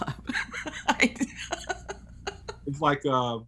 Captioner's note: laughing